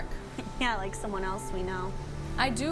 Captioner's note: chuckles